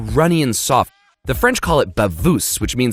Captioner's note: speaks in foreign language